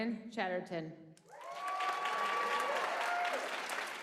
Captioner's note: applause